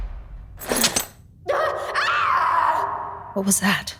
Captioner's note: screams